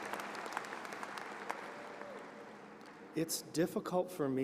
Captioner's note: applause